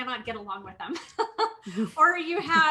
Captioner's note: laughs